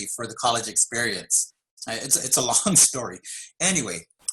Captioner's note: laugh